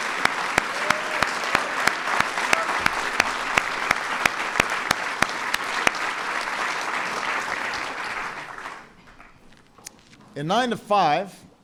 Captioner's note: applause